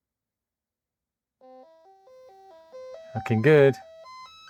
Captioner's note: beeping